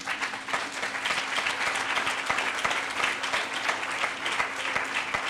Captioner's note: audience applauding